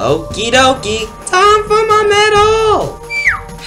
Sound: in Squeaky Voice

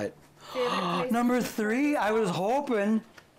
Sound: gasps

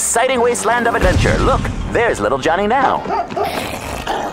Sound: snarling; dog barking

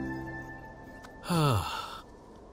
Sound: sighs

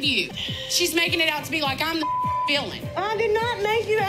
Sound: beep

